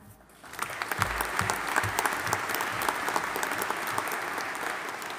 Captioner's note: audience applauding